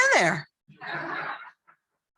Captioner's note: laughter